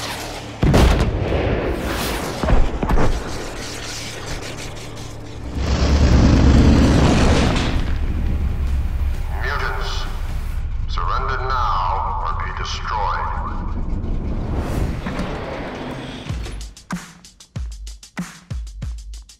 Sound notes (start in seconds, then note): 0.6 bombs exploding; 6.1 car tires skidding; 13.6 doors opening; 15.1 upbeat funk music